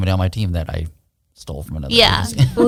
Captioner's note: laughs